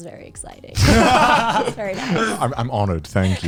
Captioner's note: guys laughing; all laughing